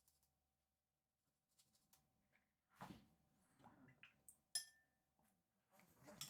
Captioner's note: silence